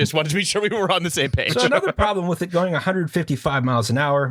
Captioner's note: laughter